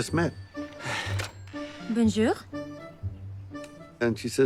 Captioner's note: sighs